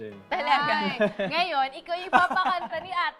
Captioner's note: chuckles